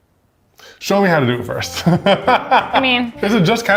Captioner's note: laughs